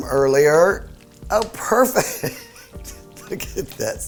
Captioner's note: laughs